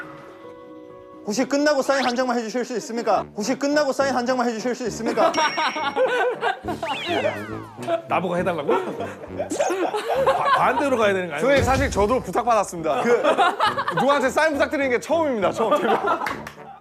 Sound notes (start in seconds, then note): 6.9 haha